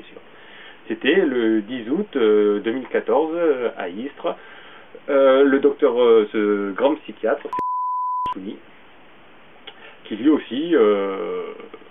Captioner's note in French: bip